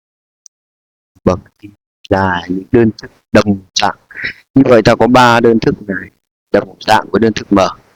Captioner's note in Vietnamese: hắng giọng